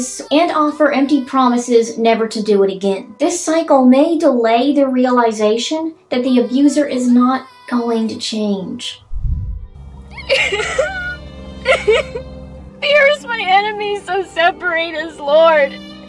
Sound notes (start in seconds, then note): 9.0 swoosh; 10.1 sobbing